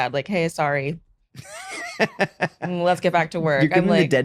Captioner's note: laughing